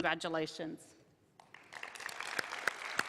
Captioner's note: applause